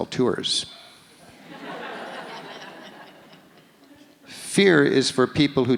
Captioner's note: audience laughs